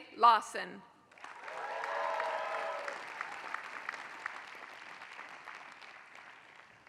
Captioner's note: applause